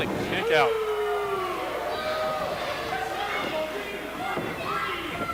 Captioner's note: crowd boos and yells